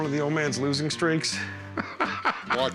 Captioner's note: laughs